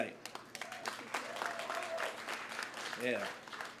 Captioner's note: applause